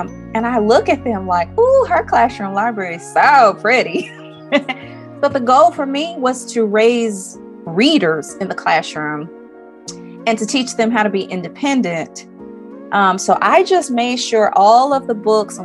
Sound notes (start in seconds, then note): 3.9 laughs